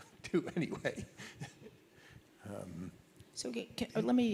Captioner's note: laughs